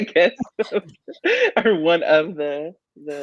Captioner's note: chuckling